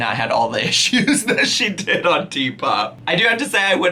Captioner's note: laughing